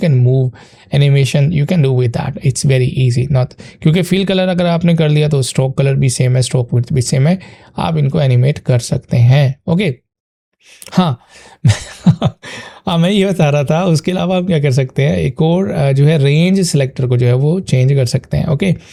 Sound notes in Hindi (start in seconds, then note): 11.6 हंसी